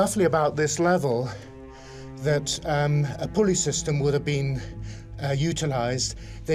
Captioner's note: exhales